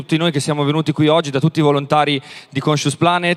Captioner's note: speaks in Italian – not transcribed